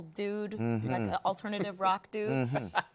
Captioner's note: laughs